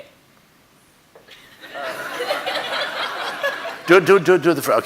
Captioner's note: audience laughing